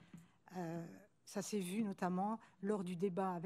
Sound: speaking french

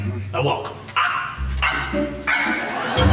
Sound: clucking

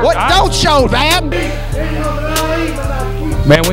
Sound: irate fan screaming

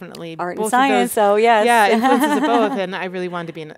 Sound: laughs

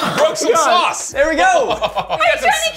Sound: chuckles

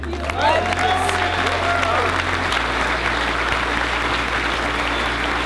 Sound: crowd cheers and applauds

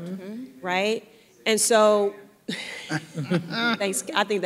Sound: audience member talking

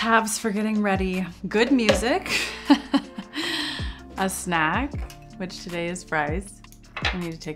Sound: chuckles

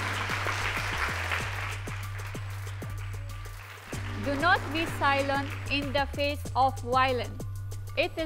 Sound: applause

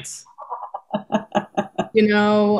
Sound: laughing

